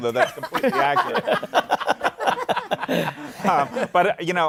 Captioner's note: laughter